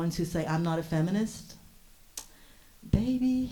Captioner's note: clicks tongue